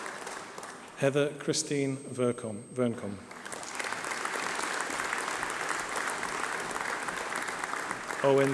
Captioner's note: applause